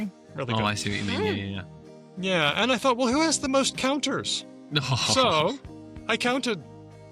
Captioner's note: laughs